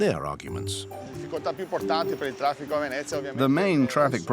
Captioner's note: Italian spoken audio